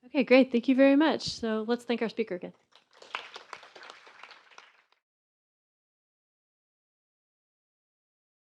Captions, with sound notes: - Okay great, thank you very much. So let's thank our speaker again. (applause)